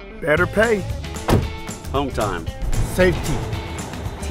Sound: truck door thudding

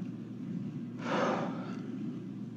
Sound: sighs

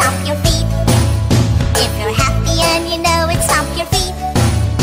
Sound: stomp stomp; stomp stomp

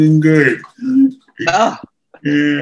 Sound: laughs

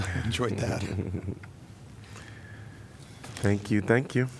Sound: laughter

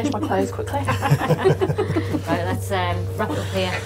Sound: laughing

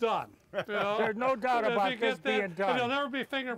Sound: laughter

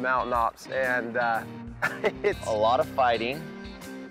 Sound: laughs

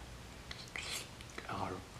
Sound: slurp; gurgle

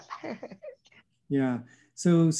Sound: chuckles

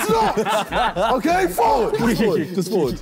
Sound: all laughing

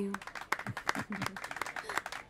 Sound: clapping

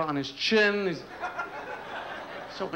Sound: laughter

